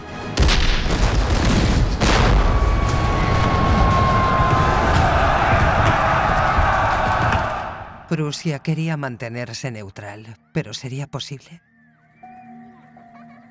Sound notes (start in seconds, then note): 0.4 cannon blasts; 2.6 soldiers bellowing